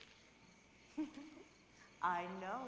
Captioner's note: fiona laughs